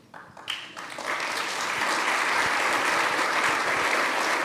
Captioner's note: audience applauding